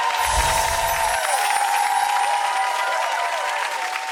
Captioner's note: audience cheers